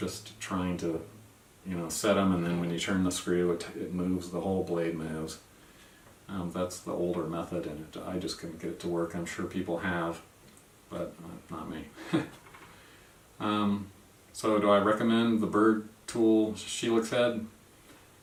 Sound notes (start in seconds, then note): 12.0 laugh